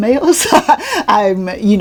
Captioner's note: laughs